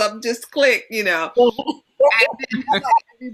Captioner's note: laughter